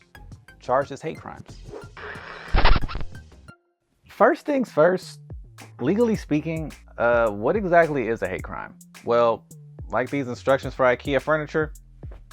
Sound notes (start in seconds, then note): 1.9 scratched vinyl disc sound